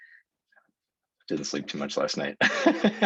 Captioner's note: laughs